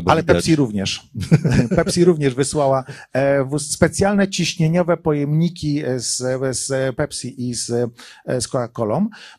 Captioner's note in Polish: śmiech